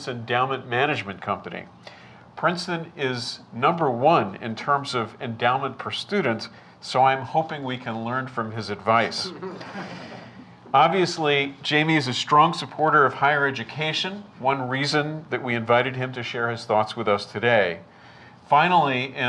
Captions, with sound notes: of Princeton's endowment management company. Princeton is number one in terms of endowment per student so I am hoping we can learn from his advice. (laughter) Obviously, Jamie is a strong supporter of higher education, one reason that we invited him to share his thoughts with us today.